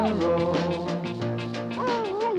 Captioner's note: Arrow barking